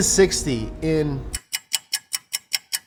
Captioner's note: clock ticking